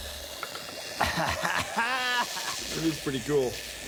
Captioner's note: <i> laughing</i>